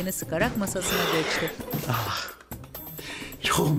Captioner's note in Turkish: Nefes sesi